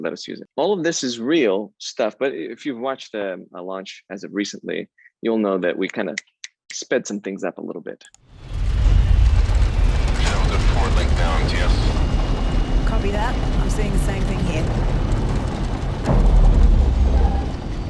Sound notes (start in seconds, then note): 8.0 clicking; 9.1 engines whining